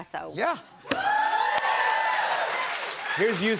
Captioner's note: cheers and applause